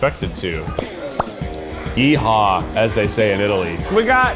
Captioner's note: claps